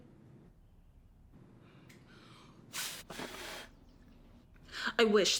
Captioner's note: blows Air